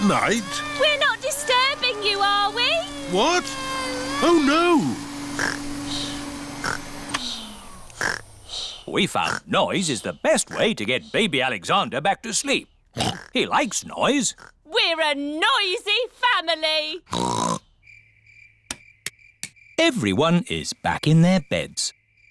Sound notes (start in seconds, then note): 5.3 snores; 6.8 whirring stops; 12.9 oinks